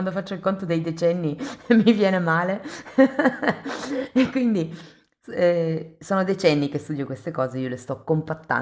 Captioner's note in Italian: risate